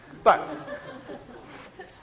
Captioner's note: class laughing